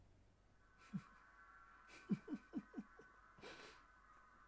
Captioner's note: Sue chuckles